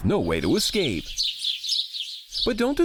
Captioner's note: birds chirping